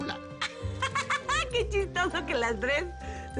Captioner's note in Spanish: Risas